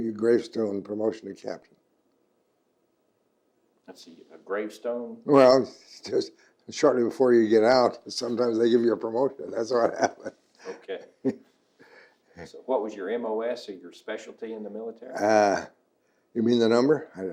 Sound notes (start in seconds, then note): 9.6 laughs